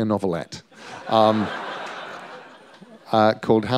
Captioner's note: laughter